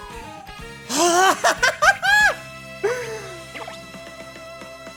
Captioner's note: sigh into laughter